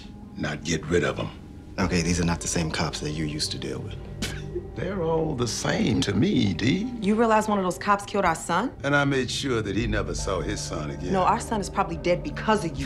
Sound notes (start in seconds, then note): 4.2 Quentin laughing